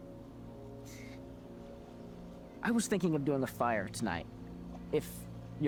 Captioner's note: inhales